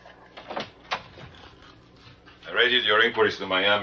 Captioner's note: door opening